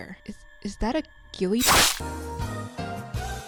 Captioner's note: loud splicing sound; upbeat music